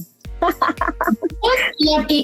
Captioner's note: laughs